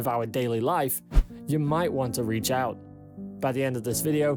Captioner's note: screen swishes